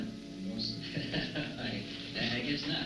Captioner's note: laughing